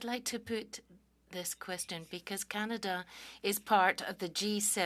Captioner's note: speaking French